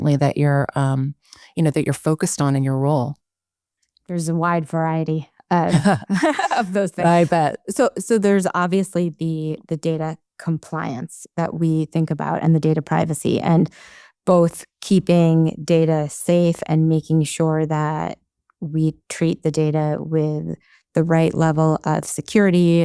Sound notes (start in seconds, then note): 5.7 chuckles